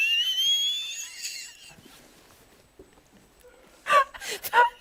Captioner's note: laughter